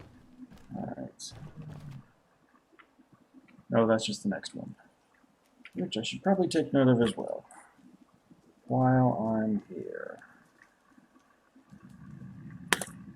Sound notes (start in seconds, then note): none